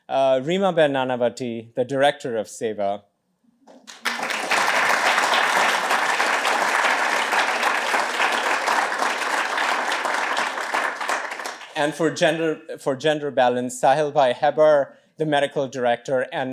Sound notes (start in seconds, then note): 3.7 applause